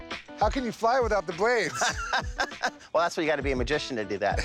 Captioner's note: laughs